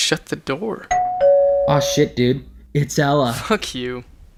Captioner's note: doorbell rings